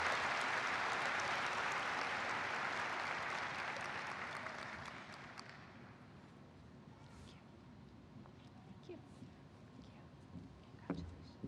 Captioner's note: applause